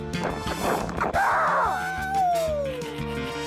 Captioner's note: both shriek